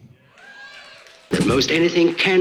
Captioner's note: audience cheers